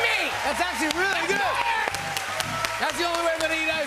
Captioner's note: cheers and applause